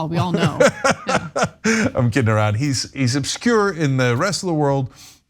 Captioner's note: laugh